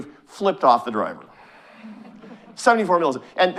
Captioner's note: audience chuckling